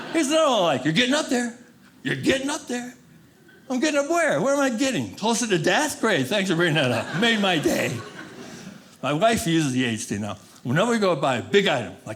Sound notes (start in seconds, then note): 0.0 audience laughing; 8.3 audience laughing